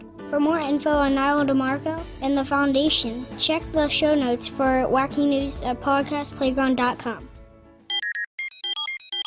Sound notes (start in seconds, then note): 7.9 jealous machine beeps